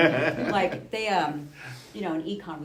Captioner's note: laughing